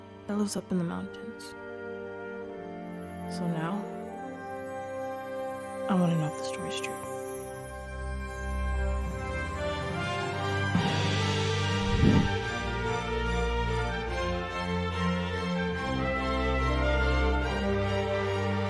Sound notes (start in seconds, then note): 10.7 whoosh